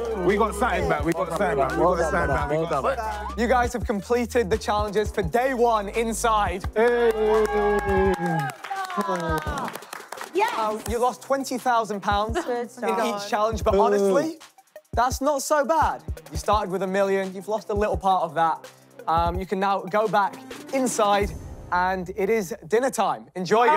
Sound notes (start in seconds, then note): 0.0 contestants cheering; 6.8 contestants cheering